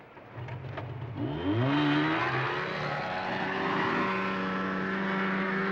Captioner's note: snowmobile driving